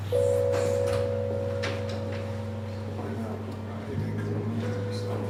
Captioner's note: men chattering quietly